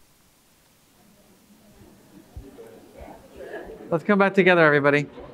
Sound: audience speaking indistinctly

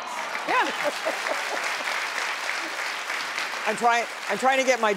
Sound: audience clapping

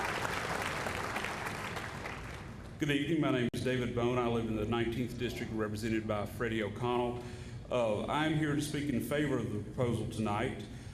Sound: applause

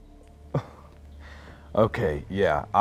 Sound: scoffs

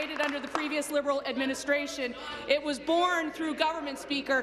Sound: applause

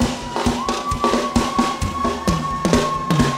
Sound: crowd cheering

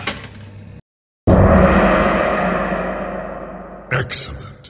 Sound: gong

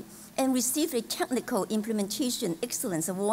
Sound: none

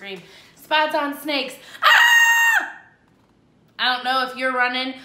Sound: screams

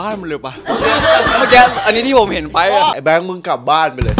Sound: laughs

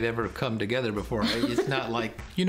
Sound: laughter

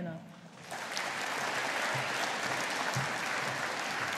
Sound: audience applauding

